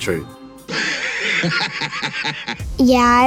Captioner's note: laughs maniacally